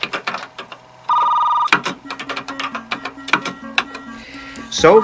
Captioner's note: phone rings